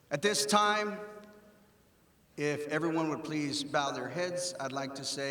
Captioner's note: none